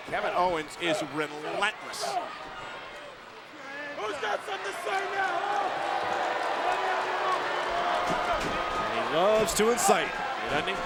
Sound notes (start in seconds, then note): 6.4 crowd applauds; 6.4 crowd boos